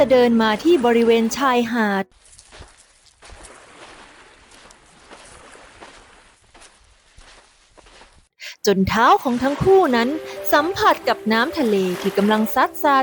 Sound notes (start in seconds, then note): 2.2 SOUND of walking and waves crashing gently